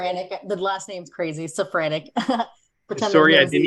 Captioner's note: laughs